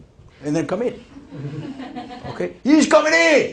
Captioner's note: laughter